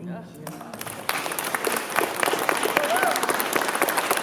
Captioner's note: applause